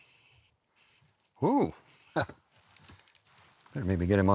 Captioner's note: laughs